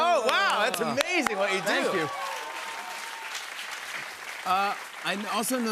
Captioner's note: cheers and applause